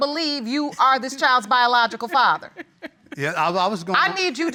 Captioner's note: laughs